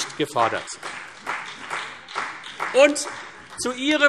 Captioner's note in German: Beifall CDU und BÜNDNIS 90/DIE GRÜNEN